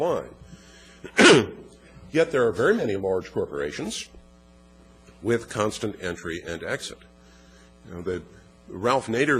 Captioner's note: cough